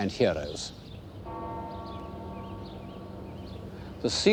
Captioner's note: bell tolls